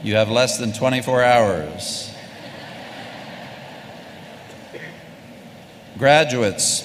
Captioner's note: laughter